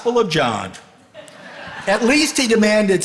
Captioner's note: audience laughing